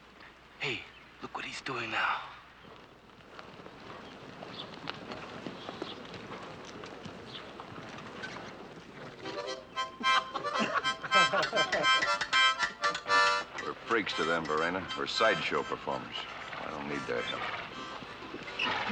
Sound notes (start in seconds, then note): 10.0 men Laughing